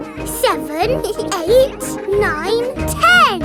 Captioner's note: both giggle